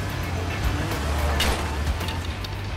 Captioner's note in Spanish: Ruido al quebrar espejo